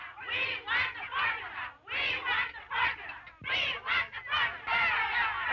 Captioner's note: chanting continues